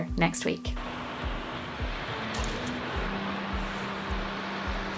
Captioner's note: waves crashing